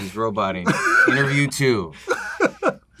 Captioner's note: laughs